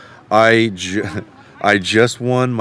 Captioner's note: chuckles